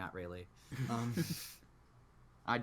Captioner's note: giggles